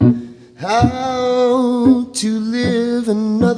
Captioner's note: none